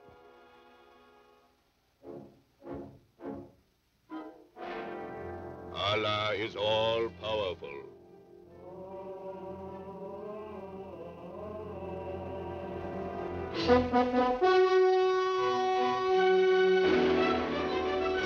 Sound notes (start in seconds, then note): 0.3 dramatic music; 13.5 horns blowing